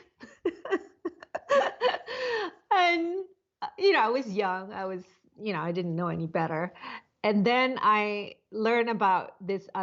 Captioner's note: laughs